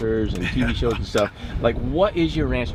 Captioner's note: chuckling